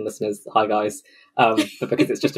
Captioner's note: laughs